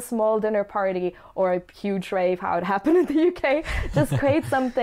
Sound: laughs

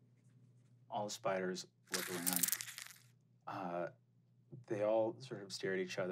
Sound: skittering

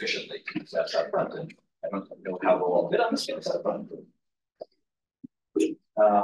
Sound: audio distorting

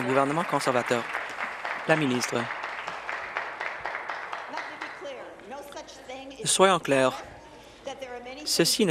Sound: applause

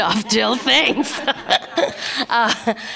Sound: laughter

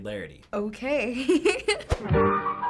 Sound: giggling; whimsical music

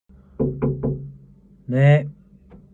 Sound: knock on the door

